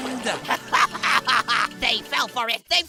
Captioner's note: Golf Ball laughs